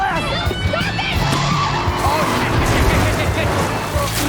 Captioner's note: wheels squeal